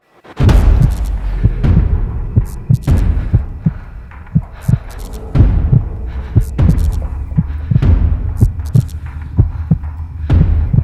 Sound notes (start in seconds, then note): 0.3 dramatic music; 0.4 heart beating